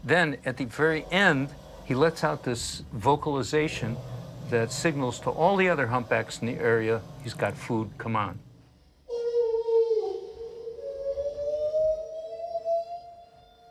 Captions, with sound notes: Then at the very end, he lets out this vocalization that signals to all the other humpbacks in the area, he's got food, come on. [whale calling]